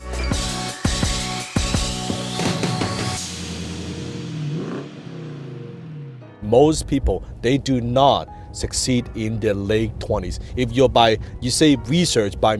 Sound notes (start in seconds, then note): 0.0 smooth techno music; 3.4 car engine purring